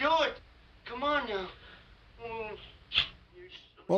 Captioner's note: kisses